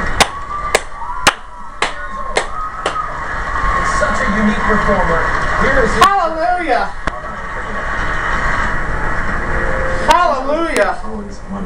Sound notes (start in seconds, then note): 1.2 continues clapping; 2.8 stops clapping